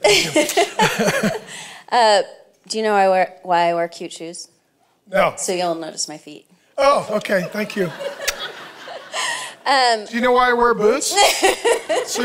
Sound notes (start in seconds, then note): 0.0 laughs; 7.2 laughing